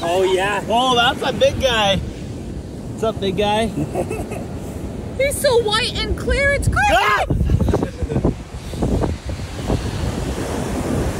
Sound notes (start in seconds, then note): 3.7 laughing